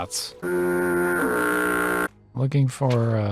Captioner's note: rancid foghorn